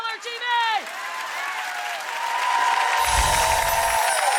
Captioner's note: applause